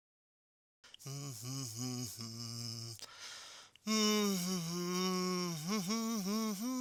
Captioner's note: humming tunelessly